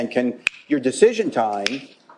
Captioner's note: snapping fingers